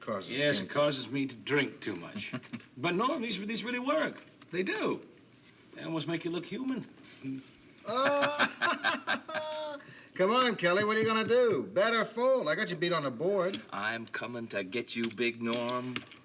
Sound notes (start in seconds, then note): 7.8 laughs